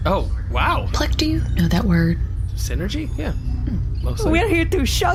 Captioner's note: whispered